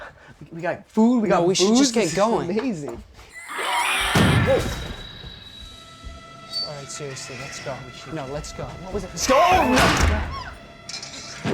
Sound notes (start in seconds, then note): 3.3 animal shrieks; 9.5 shrieking, pounding